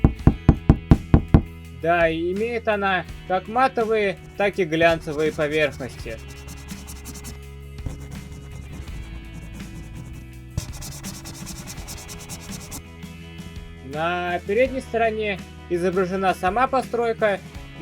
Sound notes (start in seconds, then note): 0.0 knock on cardboard; 4.9 rustling